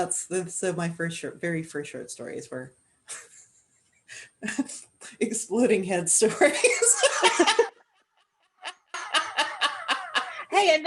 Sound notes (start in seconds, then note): 3.6 chuckles; 6.4 laughter